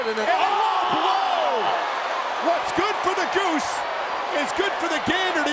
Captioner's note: applause